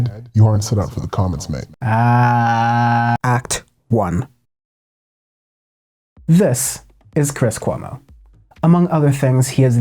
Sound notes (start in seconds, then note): 1.8 exhausted noise